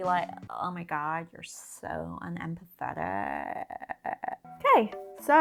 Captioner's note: American accent